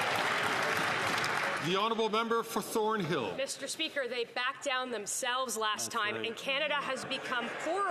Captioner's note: some Applause